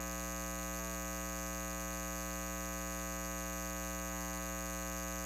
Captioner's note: continuous buzzing